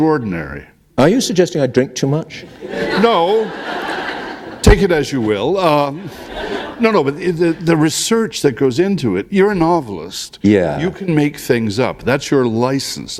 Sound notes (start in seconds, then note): 2.4 laughter